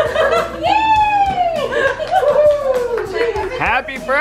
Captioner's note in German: Jubel